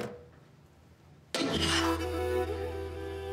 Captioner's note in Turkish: Vurma sesi